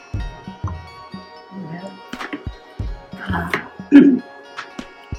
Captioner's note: clears throat